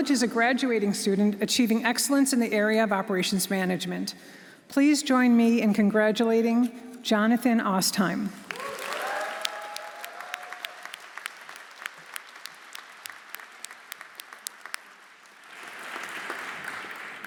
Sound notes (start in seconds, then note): 8.4 audience applauding; 8.5 audience cheering